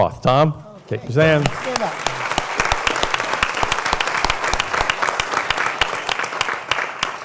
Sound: applause

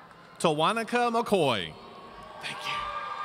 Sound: audience cheering

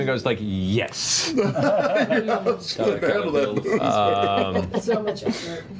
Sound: laughing

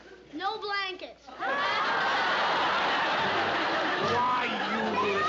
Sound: laughter

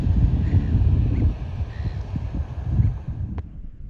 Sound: bird sounds

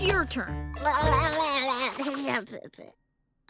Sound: babbling

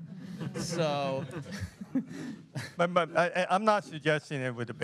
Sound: laughter

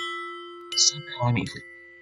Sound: mic craps out

